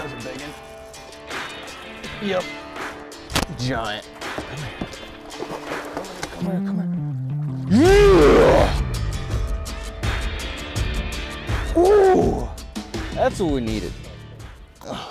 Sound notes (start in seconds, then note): 2.4 upbeat music; 4.5 water splashes; 7.6 grunts